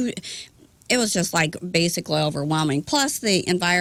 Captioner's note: none